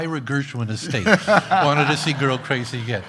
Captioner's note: laughs loudly